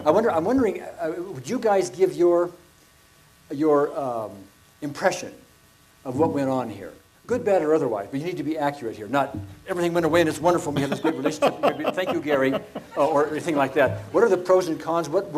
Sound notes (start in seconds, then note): 10.7 laughs